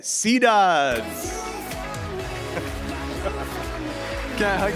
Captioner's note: applause